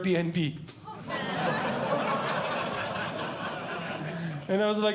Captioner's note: audience Laughing